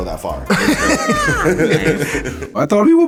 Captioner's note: laughter